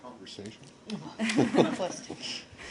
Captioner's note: laughter